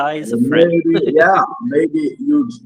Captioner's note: laughs